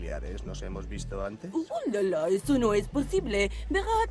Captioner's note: low pitch voice